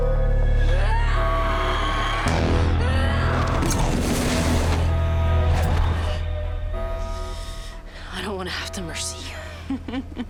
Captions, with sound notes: [grunting] - I don't want to have to mercy you.